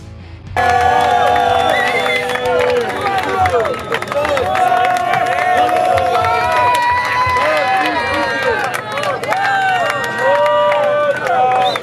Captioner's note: cheering